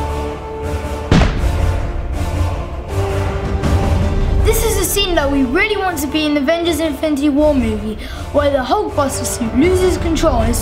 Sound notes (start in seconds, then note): 1.0 booming